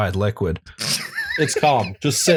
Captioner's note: laughter